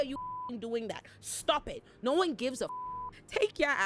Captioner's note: beep; beep